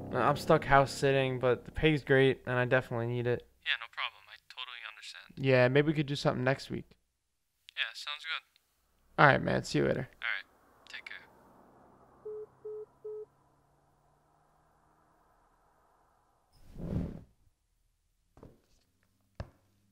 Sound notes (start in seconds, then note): 12.2 end call beep